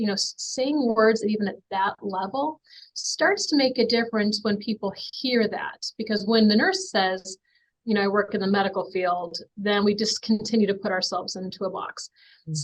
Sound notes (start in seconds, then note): none